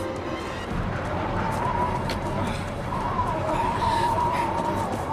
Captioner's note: strong wind blows